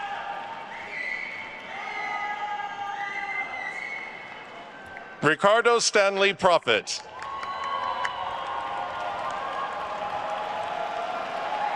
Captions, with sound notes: (attendees whistling) Ricardo Stanley Prophete. (attendees cheering and applauding)